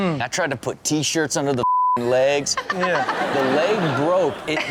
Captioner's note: beep